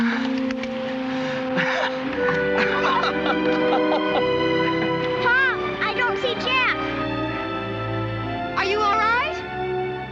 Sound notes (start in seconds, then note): 1.5 laughing